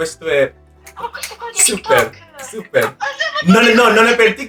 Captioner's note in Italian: ridendo